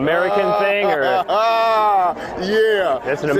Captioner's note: laughs